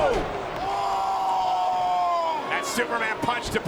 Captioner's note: Roman screams